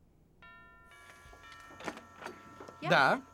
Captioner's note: doorbell rings